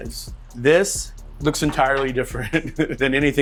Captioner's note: chuckles